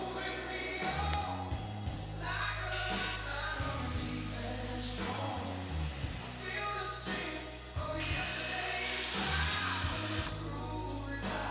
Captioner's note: welding sparks